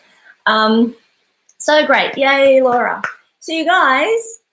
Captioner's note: clapping